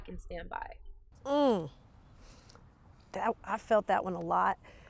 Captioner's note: humming